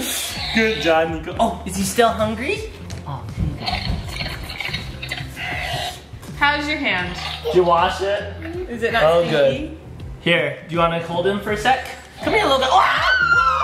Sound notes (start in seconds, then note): 3.6 balloon squeaking